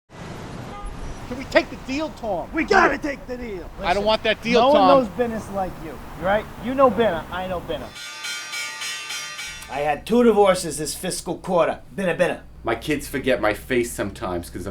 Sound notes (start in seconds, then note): 8.2 bells clanging